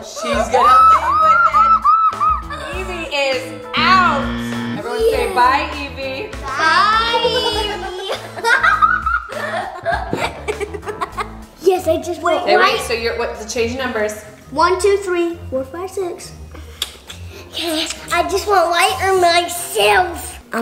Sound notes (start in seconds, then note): 3.8 buzzer; 8.7 laughs